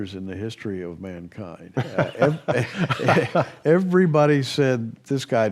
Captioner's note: laughs